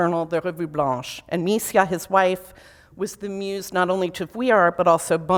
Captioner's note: foreign language